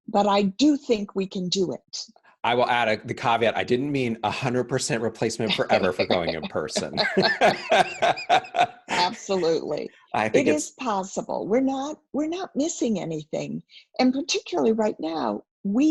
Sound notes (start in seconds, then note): 7.2 laughs